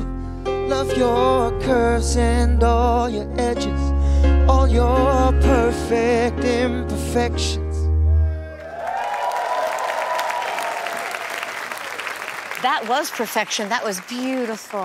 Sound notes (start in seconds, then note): 8.1 cheering